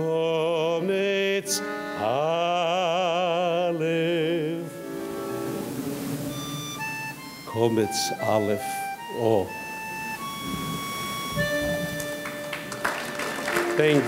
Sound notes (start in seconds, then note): 0.3 singing in foreign language; 7.7 speaking in foreign language; 11.5 audience clapping